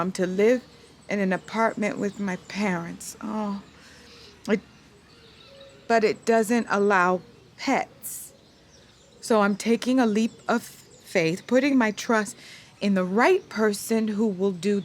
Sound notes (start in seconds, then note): none